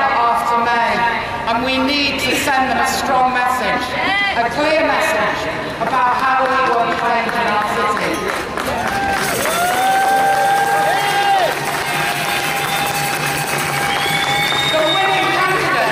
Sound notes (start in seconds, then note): 11.2 cheers